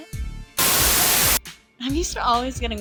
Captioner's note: Static